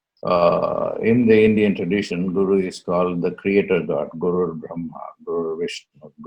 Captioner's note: chants